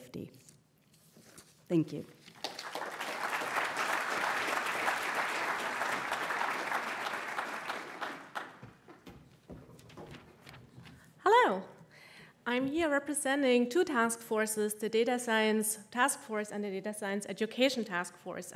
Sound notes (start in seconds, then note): 4.3 audience applauds